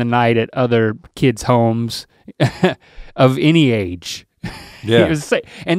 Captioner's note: chuckles; chuckles